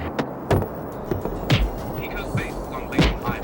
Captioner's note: plane rumbling; punches thudding; suspenseful music